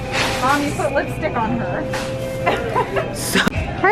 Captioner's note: laughs